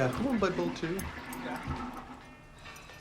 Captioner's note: toilet flushes